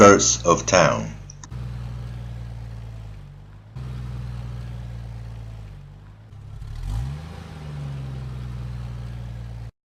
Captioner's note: engine rives up